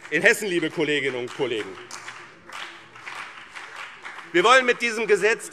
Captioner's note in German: Beifall BÜNDNIS 90/DIE GRÜNEN und CDU